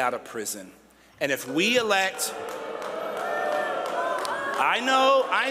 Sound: crowd boos

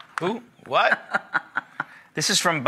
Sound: chuckling

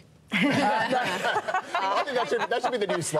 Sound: laughter

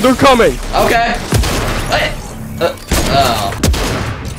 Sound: loud gunfire

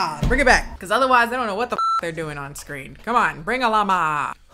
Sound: beep

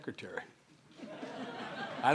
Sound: laughter

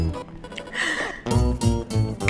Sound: laughs; gasps

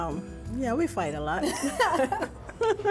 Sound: laughter

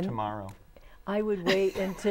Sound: laughing

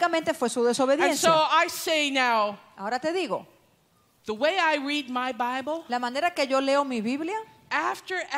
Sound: Spanish; Spanish

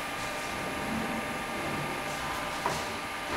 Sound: dull machine whirring

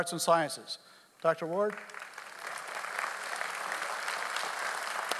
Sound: audience applauds

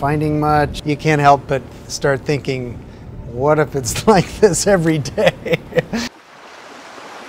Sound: laughs

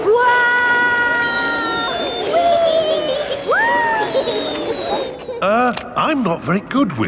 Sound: all yelling

